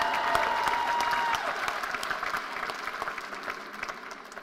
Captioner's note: cheers and applause